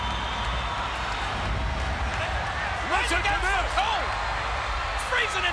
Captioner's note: applause